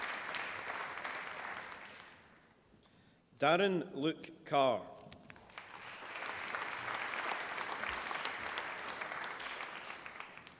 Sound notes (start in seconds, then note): 5.3 applause